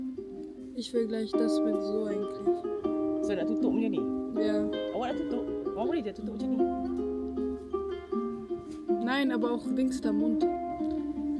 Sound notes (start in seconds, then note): 0.6 speaking German